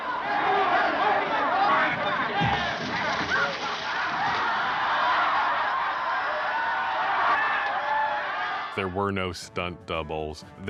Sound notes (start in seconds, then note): 0.1 crowd yelling; 3.9 crowd laughing; 3.9 women screaming